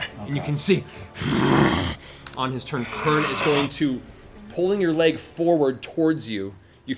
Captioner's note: growls